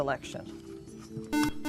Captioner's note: buzzer